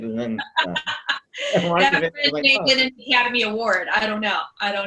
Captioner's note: laughs